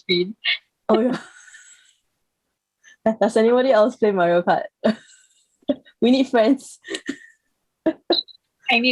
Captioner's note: laugh; laughs in friendlessness